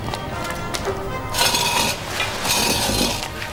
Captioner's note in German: Kratzen